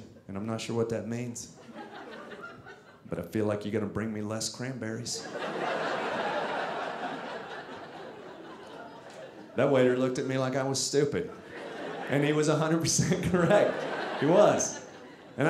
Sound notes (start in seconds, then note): 5.2 audience laughing